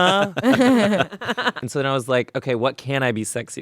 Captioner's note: laughing